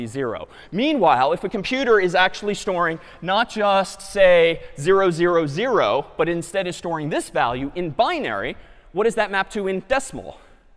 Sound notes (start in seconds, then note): none